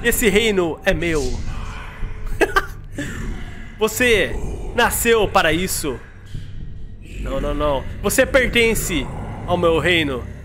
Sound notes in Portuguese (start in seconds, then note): 2.3 risos